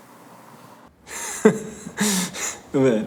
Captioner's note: laughter